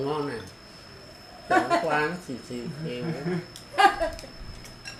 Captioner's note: laugh